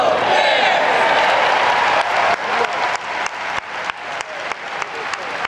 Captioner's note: audience applauds